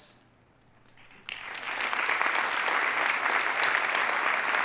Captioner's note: audience applauding